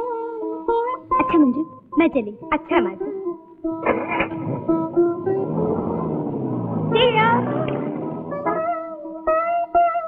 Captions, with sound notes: Manju, I will leave. - Okay. (Car engine starts) See you.